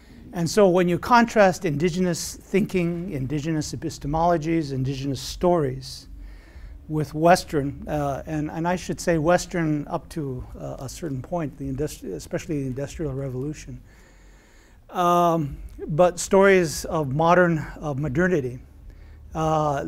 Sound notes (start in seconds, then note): none